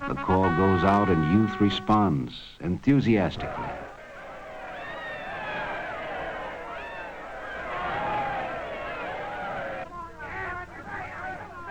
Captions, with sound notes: The call goes out and youth responds enthusiastically. (crowd yelling)